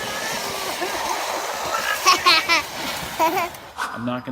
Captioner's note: laughing